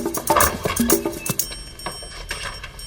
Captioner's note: door creaking